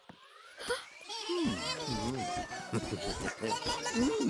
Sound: Bongolalas chattering; Tobor groaning and chuckling

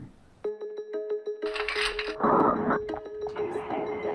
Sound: soft music; cluttering loudly; whispering softly

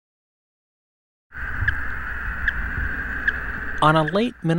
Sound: sound of radio-collar signals …beep, beep, beep…

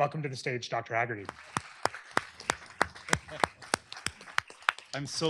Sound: applause

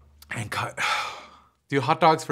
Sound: sighs

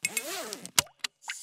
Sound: zipper closes; stapler used

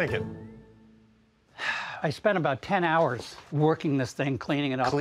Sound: sighs

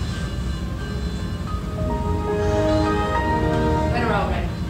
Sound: Windows sound effect

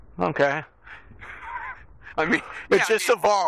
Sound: laughs

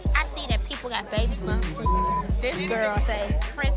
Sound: beep sound

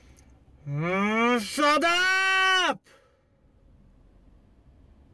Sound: groans

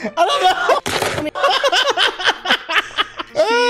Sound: sound that sounds like gunshots

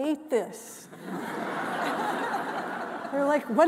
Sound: all laughing

